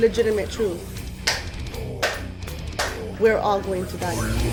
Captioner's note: man clapping